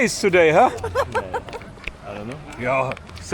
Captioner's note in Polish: śmiech